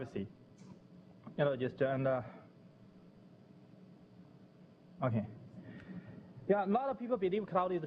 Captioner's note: pause